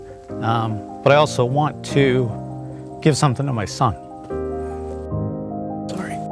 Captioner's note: gets choked up